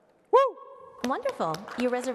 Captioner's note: applause